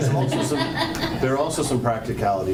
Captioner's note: laughing